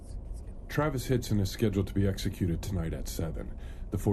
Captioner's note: news broadcast